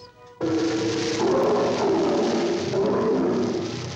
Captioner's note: lions snarling